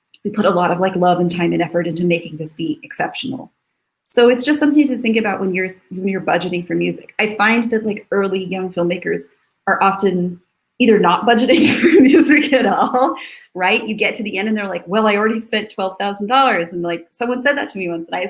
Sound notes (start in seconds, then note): 12.9 laughs